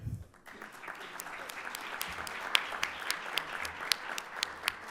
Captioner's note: audience applauding